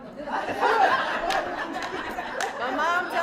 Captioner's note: laughter